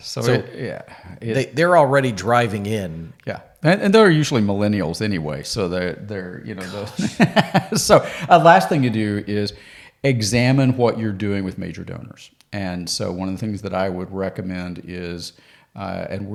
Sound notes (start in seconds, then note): 6.6 laughs; 8.0 sighs